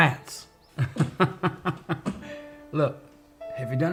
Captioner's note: laughs